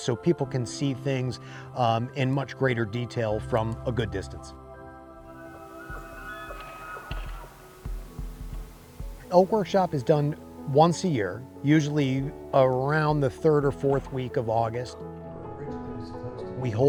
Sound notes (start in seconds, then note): 5.4 elks bugling